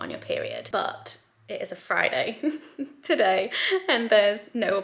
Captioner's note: chuckles